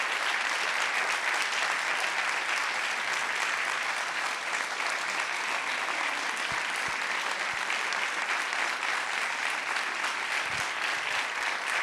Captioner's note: applause